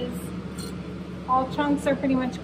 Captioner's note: vent sounds